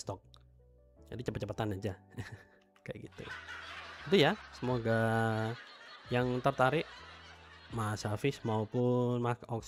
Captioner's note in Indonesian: tertawa